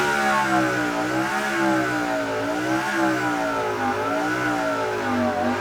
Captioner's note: engine noise gets quieter